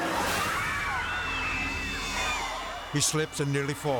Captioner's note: bystanders screaming